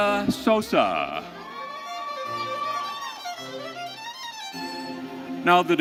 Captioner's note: audience cheering